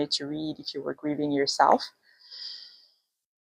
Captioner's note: exhales deeply